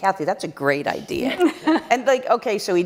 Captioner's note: laughter